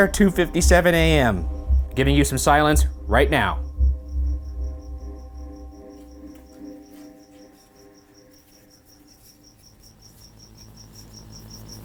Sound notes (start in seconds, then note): 5.6 cricket chirping; 5.6 suspenseful music